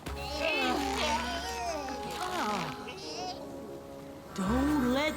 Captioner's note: ghostly voice